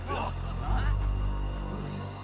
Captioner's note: eerie music; soldiers gasping